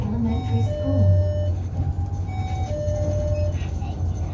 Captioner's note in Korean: 하차벨 소리